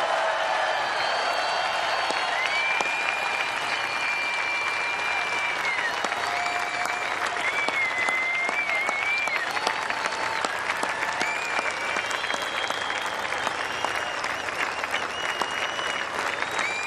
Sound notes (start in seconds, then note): 3.2 cheers and applause